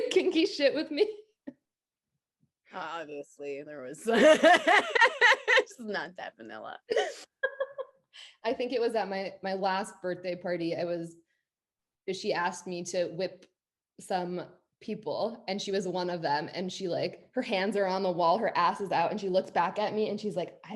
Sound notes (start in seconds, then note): 1.6 laughs; 4.1 both laughing; 6.8 laughs